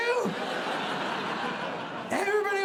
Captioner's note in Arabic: ضحك